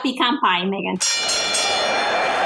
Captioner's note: ovación; sonido de campana